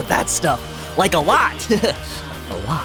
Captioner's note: laughs